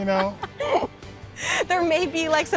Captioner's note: laughing